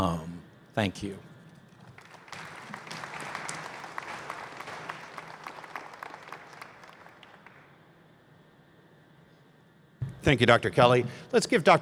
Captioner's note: applause